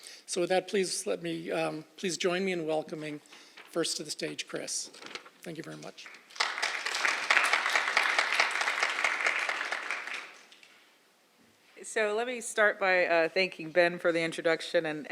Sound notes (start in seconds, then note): 5.9 applause